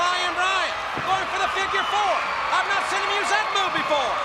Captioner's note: crowd cheering